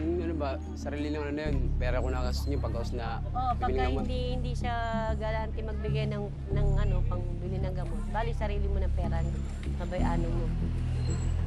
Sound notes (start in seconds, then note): 3.8 speaks in foreign language